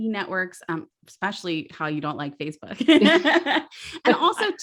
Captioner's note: laughs